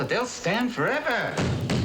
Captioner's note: pounding